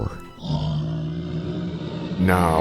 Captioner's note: monstrous roar